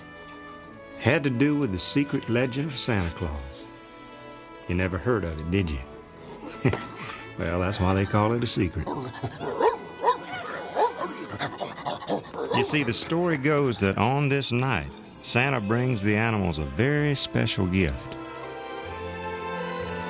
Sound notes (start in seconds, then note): 9.1 barking